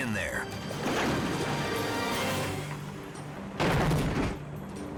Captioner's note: cage banging